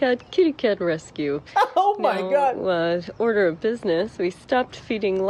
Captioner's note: laughs